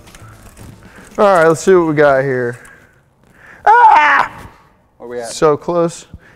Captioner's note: screams